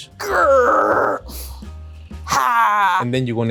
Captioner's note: growls